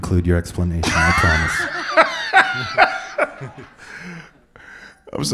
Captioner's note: laughs